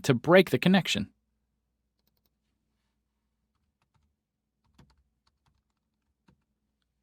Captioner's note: typing